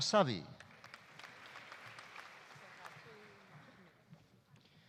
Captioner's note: audience applauding